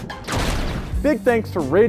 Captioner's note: lightning crashing; upbeat music; lightning crashing